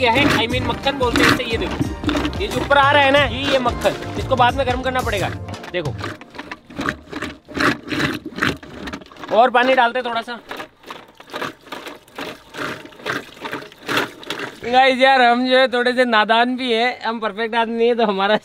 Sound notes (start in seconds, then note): 6.2 churning; 10.7 churning